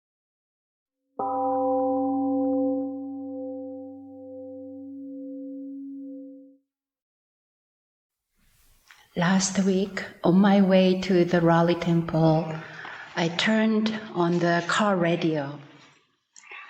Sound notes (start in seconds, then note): 1.2 temple gong rings and fades